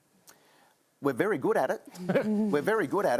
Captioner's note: laughs